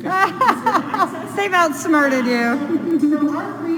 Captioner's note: laughter